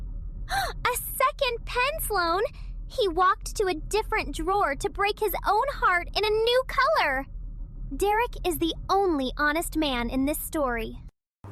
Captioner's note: gasp